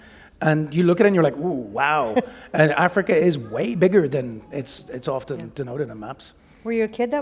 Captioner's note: laughter